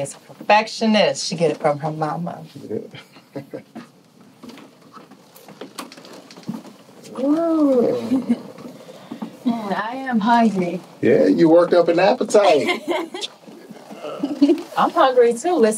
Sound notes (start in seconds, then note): 2.8 laughs; 7.7 giggles; 12.4 Alli laughs